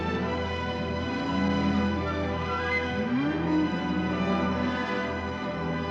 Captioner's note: dramatic music; cattle moo; dramatic music